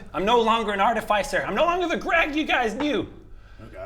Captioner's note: none